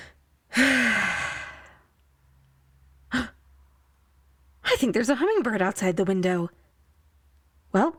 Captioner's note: gasp